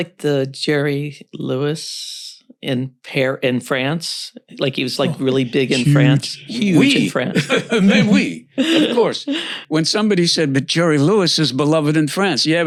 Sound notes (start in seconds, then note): 5.0 laughs